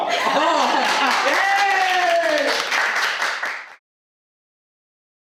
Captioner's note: applause